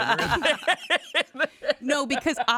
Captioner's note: laugh